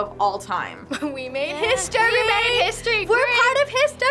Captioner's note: laughs